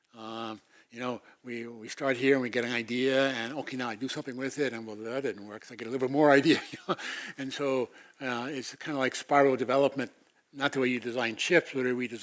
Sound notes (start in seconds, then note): 6.5 laugh